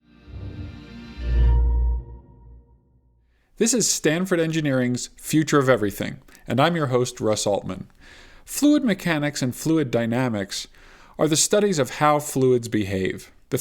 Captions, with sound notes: (gentle music) (gong sounds) - This is Stanford Engineering's "Future of Everything," and I'm your host, Russ Altman Fluid mechanics and fluid dynamics are the studies of how fluids behave.